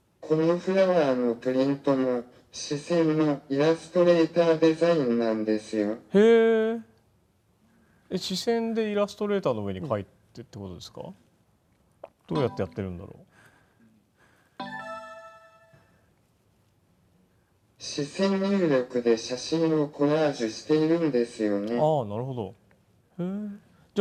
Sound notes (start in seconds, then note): 14.6 electronic startup sound